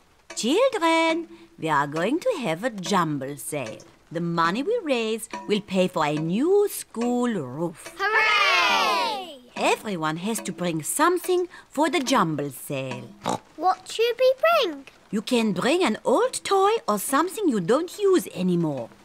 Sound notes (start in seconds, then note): 13.2 oinks